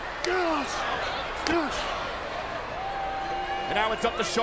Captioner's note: Shawn grunts